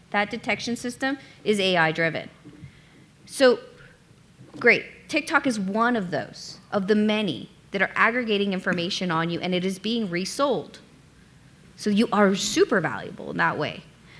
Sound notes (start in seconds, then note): none